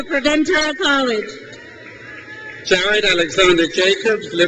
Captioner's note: crowd cheers